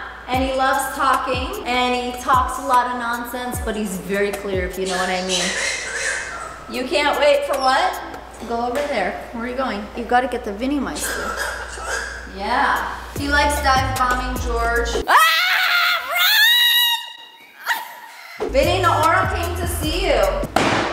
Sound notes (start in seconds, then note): 4.8 bird squawking; 11.0 bird squawking